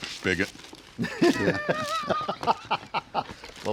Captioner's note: laughs